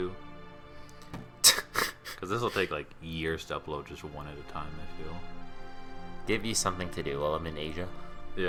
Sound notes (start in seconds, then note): 1.4 laughing at the girl getting knocked down